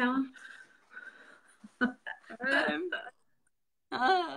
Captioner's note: laughing